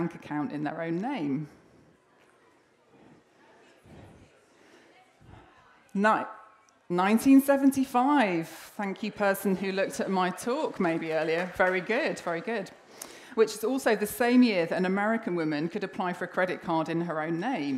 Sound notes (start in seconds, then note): 1.7 audience responds